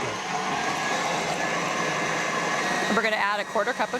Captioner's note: mixer whirring